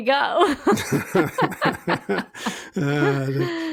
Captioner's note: both laughing